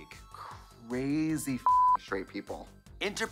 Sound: beep

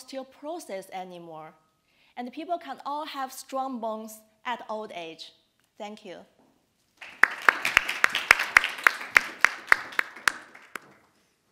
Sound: audience applauding

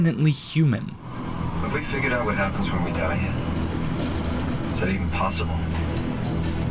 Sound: in-game audio

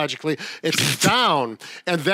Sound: snickers

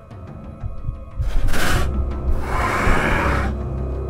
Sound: snarling

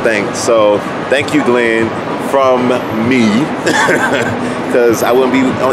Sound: laughing

